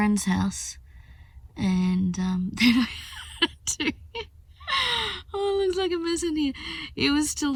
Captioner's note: laughing